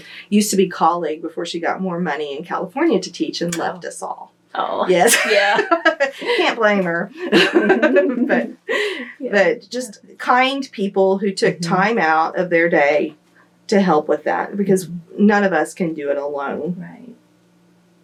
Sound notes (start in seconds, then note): 7.1 laughter